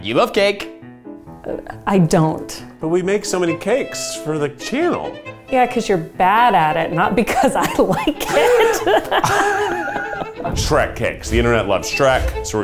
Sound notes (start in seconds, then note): 7.5 chuckling; 7.5 group laughing